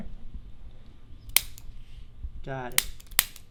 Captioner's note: activator clicking